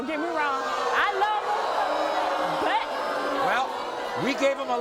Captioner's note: audience booing